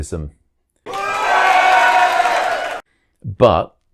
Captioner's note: applause